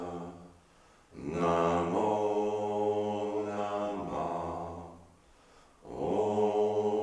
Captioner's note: chanting in unison